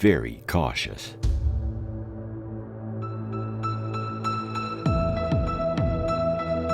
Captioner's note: celestial music; ghostly booming